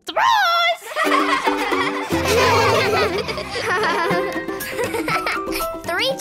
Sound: laughing

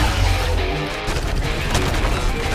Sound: engines revving

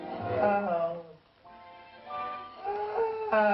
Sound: groaning

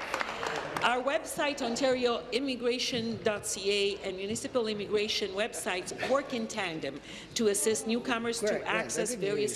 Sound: applause

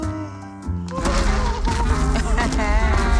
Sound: stomping feet

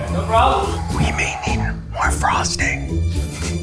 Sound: whispers

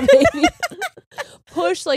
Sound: both laughing

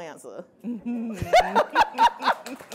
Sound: laughing; applause

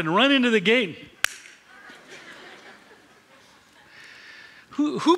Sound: laughter

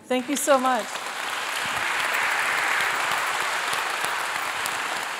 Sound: applause

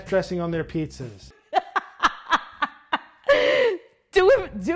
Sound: laughs

